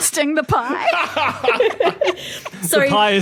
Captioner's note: group laughing